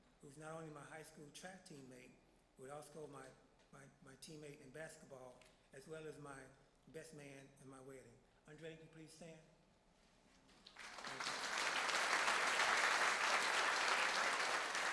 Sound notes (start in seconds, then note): 10.6 applause